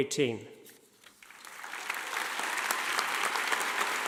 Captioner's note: clapping